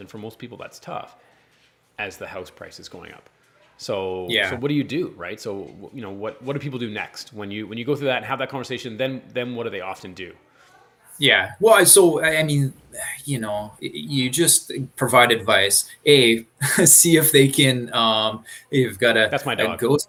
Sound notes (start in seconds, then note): 15.6 chuckles